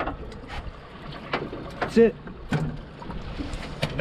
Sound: fish thrashing

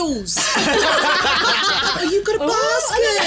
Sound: group laughing

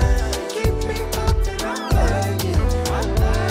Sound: squeals

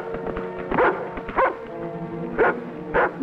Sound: dog barks

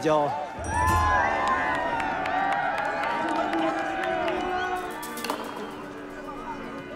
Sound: crowd yelling, applauding

